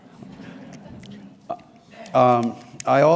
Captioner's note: light crowd laughter